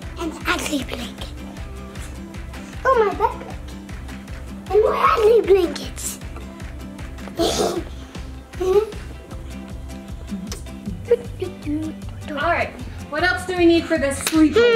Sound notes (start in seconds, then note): 7.5 laughs; 10.2 hums